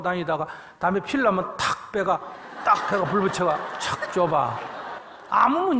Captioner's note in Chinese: 听众 笑